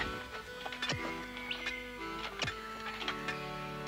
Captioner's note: shovel digging